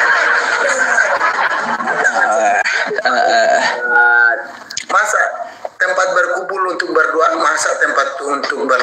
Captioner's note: laughs